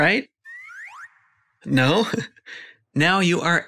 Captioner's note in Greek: γέλια